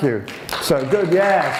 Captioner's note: applause